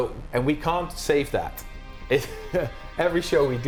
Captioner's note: chuckling